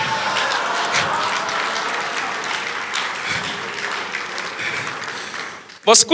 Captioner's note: audience applause